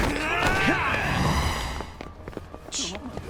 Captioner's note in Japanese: うめき声; 叫び声